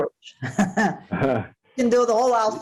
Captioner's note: laughs